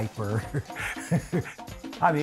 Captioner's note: laughing